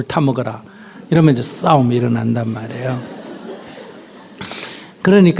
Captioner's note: audience Laughter